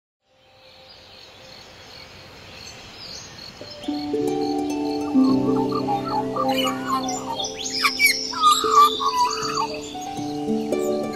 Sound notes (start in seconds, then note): 4.7 magpie call